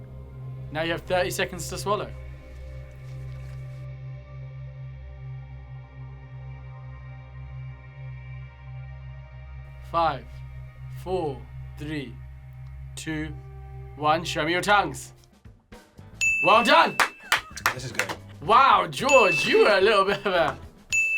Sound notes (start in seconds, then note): 3.1 mysterious music; 16.2 bell dings; 16.4 upbeat music; 16.4 claps; 19.0 bell dings